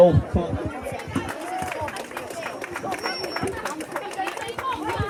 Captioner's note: applause